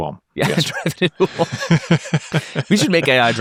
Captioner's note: laughs